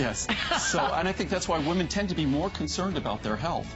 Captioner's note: laughter